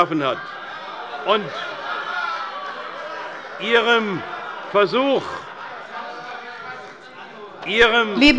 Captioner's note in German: Lachen und Widerspruch bei der SPD, der LINKEN und der FPD